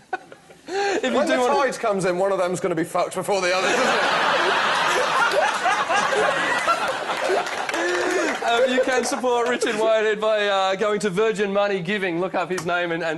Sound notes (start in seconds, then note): 5.5 laughter